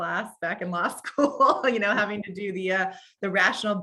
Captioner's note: laughs